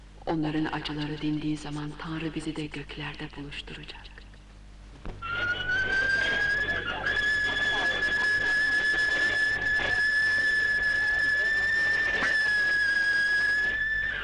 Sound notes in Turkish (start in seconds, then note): 5.5 Trenin uzun düdüğü